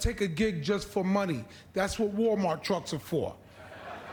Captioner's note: laughter